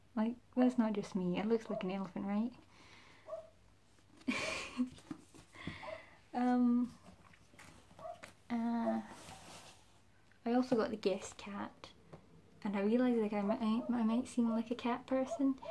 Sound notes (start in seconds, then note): 4.3 laughs